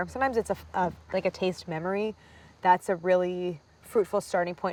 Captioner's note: none